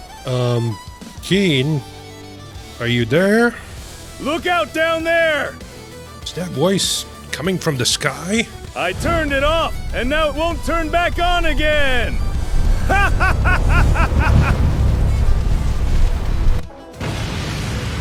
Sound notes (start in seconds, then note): 15.8 laughs